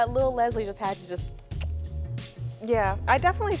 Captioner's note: mimicking footsteps